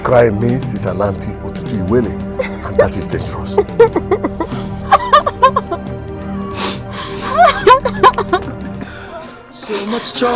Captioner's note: laughter